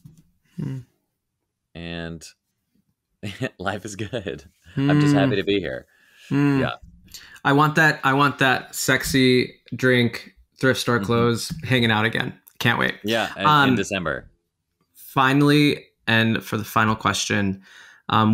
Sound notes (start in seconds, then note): 4.8 chuckling